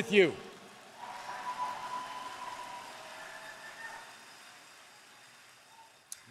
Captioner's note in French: Acclamations et applaudissements